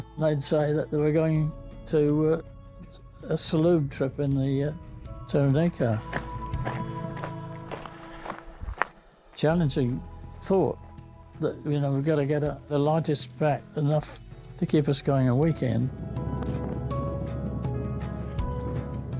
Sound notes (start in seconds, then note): 5.4 footsteps crunching; 16.5 bright music